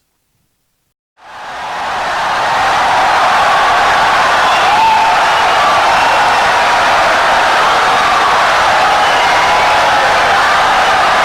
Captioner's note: wild applause and cheering for 17 seconds